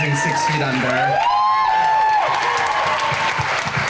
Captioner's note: crowd cheering